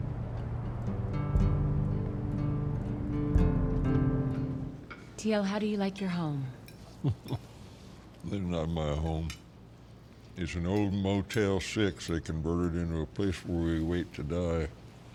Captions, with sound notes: [GENTLE MUSIC] T.L., how do you like your home? [LAUGHS] This is not my home. It's an old Motel 6 they converted into a place where we wait to die.